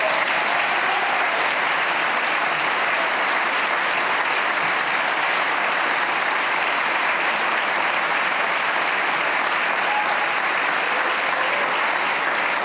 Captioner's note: cheers and applause